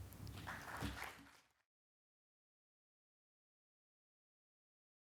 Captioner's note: audience clapping